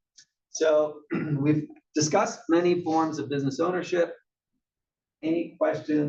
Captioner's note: cough